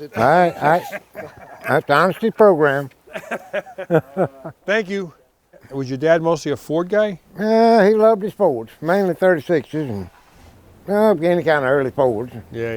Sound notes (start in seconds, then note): 3.0 laughs